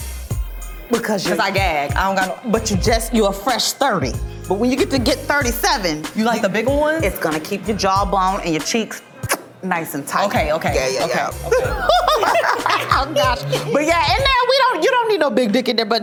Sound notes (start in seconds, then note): 9.2 smacks; 11.3 laughs